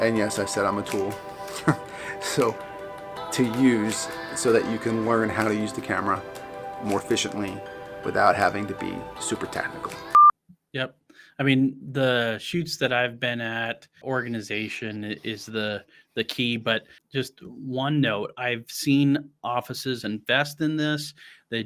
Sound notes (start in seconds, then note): 0.9 scoffs; 9.6 test pattern beeps